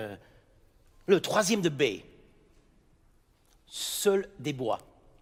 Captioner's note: speaking in French